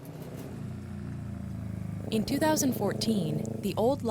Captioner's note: engine running